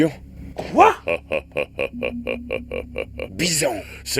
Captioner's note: evil laugh